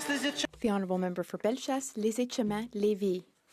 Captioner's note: some Applause